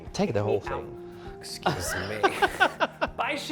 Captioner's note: laughing